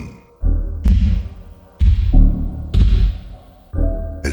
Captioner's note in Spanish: toc, toc, toc